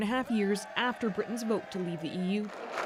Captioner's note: cheers and Applause